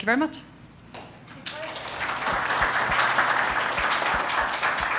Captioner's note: audience applauding